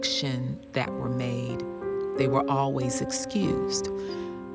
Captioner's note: none